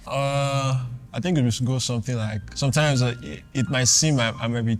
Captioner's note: none